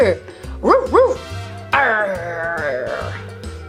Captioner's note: barking